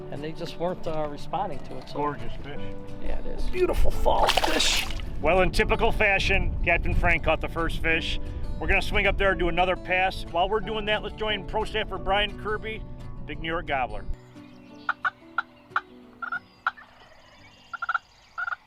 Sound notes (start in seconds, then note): 15.2 turkey gobbles